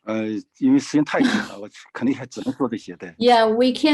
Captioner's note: speaking in foreign language